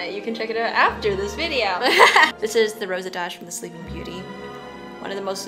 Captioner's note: laughs